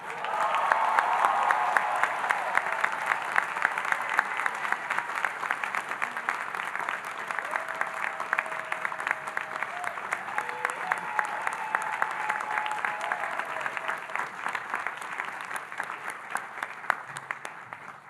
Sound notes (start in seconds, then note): 0.3 audience cheering and applauding; 10.4 audience cheering and applauding